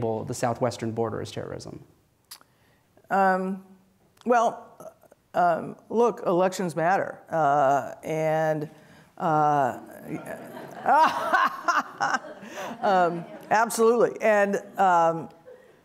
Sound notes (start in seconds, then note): 9.6 audience laughs; 9.8 Janet laughs